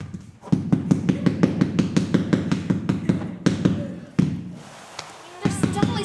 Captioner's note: loud hammering